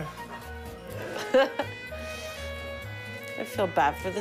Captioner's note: laughing